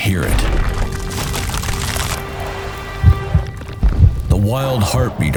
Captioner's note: rocks crumbling